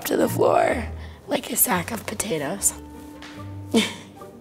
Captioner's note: laughs